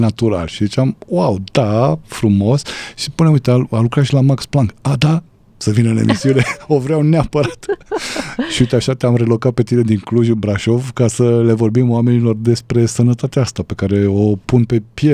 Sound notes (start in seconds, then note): 7.2 laughter